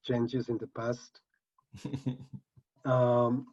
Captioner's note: chuckles